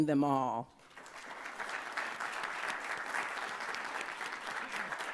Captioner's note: everyone applauding